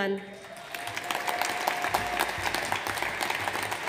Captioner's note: audience applauds